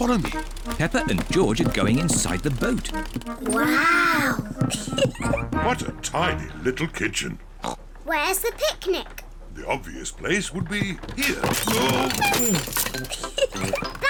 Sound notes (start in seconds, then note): 7.6 oinks; 12.8 giggles